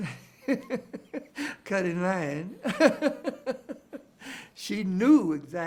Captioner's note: chuckles